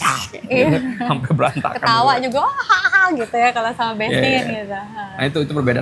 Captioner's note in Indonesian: tertawa